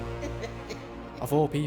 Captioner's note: evil laughing